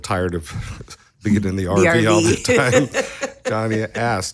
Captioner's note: laughing